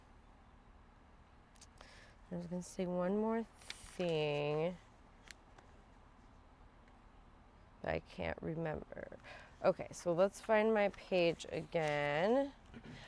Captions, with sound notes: I was gonna say one more thing. (pages rustling) I can't remember. Okay, so let's find my page again.